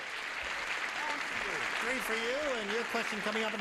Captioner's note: applauding